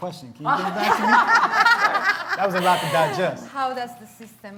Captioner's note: laughs